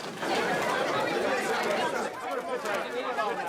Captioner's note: chatter